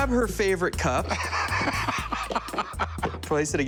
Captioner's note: laughs